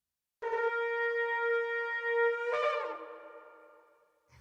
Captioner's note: horn is sounded